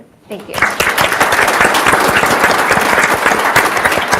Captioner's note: audience applauds